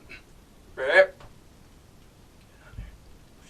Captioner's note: groans